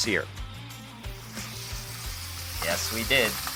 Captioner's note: meat sizzling